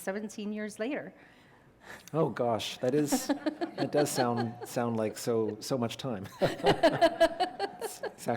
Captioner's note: laughter